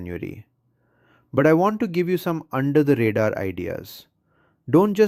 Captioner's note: excited